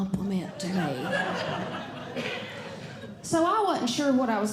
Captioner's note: audience Laughing